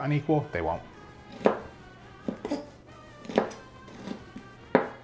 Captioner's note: knife bangs